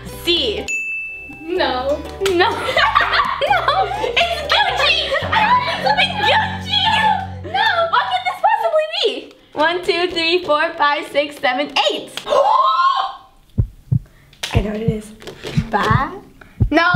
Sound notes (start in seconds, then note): 2.3 laughing; 12.7 gasps; 13.5 heart beating